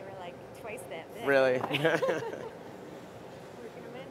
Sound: laughter

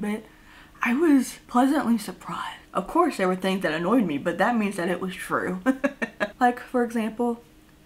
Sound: laughs

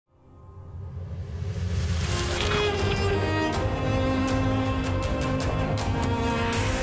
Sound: dramatic music; pages rustling

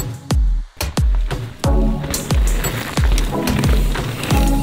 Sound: bikes whiz

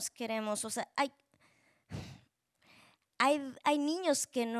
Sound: speaking Spanish

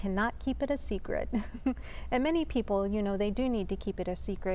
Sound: laughter

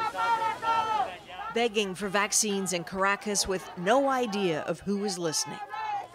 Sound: chanting

